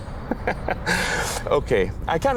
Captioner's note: dorky Dad Laugh